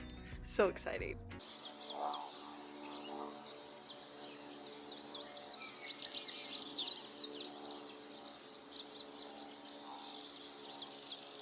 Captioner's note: bird Chirping